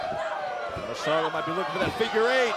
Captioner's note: cheers